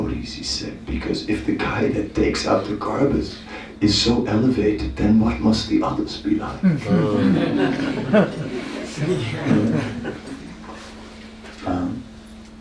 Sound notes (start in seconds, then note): 9.7 laughter